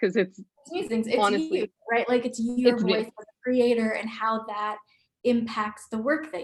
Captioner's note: murmurs